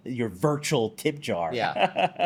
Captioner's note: laughs